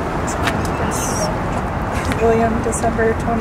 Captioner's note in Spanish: murmura